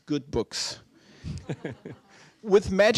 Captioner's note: laughter